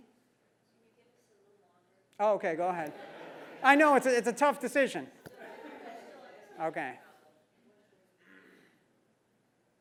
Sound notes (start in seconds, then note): 2.8 laugh; 5.4 laugh